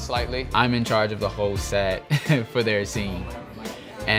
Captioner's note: laughs